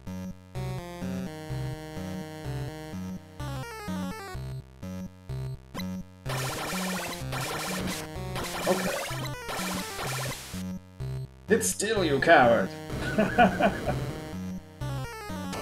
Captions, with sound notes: Okay. Sit still, you coward! [chuckles]